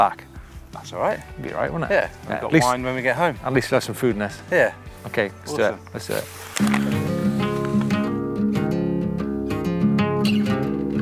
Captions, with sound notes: - That's alright. - It'd be alright, wouldn't it? - Yeah. We've got wine when we get home. - At least we'll have some food in us. - Yeah. - Okay, let's do it. Let's do it. (paper crinkles) (relaxing music)